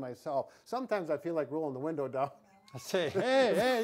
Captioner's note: laughs